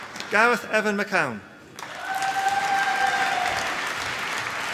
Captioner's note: applause